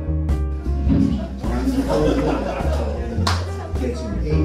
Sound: audience laughs; soft music

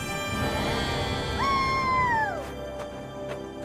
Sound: kids: whoo

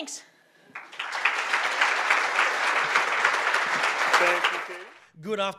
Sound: audience applauding

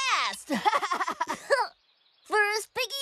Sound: giggles

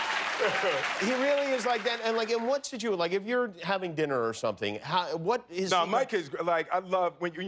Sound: cheers and applause; laughter

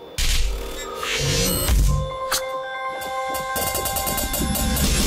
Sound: twinkling

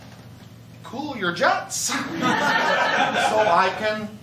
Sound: laughter

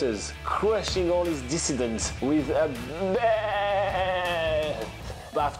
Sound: goat noise

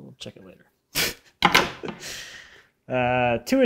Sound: laughing

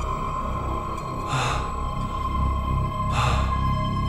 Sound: heavy breathing

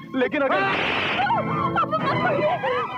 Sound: slap

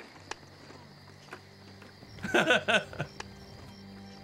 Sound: laughs

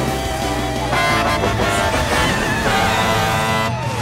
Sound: honking

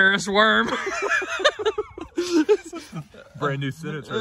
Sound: Tertawa

